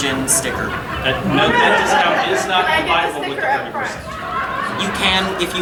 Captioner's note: audience laughing